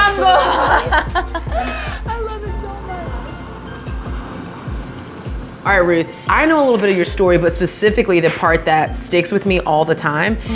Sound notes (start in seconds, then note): 2.9 gentle music; 2.9 liquid steaming